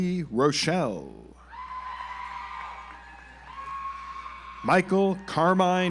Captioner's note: audience applauds